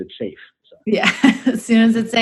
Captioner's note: laughs